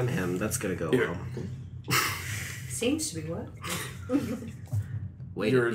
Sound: stutters

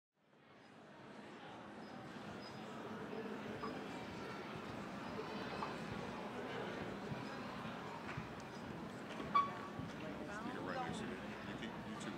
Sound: general chatter

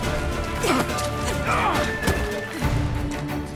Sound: grunt; groan

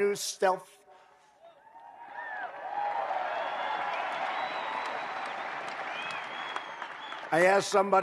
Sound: applause

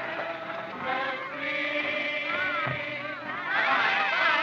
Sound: shouts Of “Good-bye”

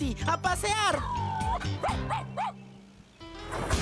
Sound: howls & Barks; engines Running

